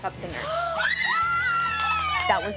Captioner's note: shrieking joyfully